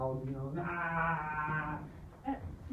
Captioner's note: unintelligent yells